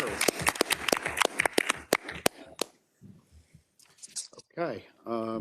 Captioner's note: audience applauding